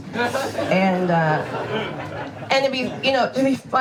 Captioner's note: audience laughs